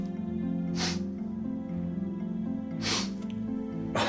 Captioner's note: Nathan sniffles